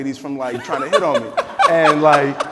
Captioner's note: person laughing